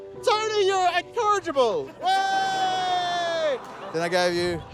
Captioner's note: laughter